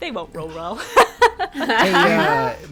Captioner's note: laughing